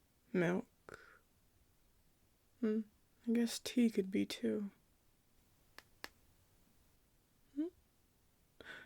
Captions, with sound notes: milk.. Mmm I guess tea could be too… [Tap Tap] hm?